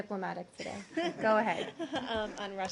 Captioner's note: laughter